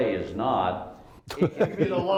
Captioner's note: laughter